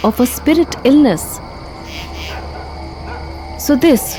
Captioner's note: dog barking